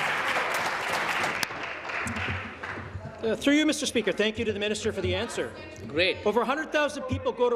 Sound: applause

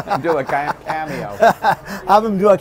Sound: both chuckle; chuckles

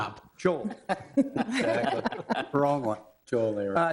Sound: all laughing

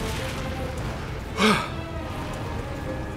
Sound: sigh of relief; dramatic music

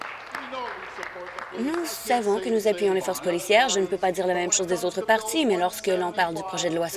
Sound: applause

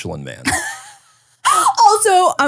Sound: laughing

